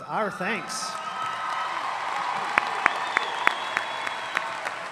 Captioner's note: audience applauding